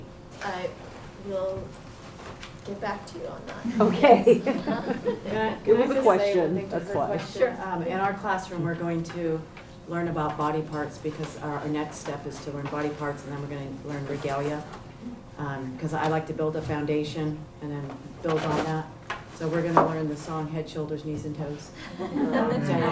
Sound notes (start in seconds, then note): 3.7 chuckles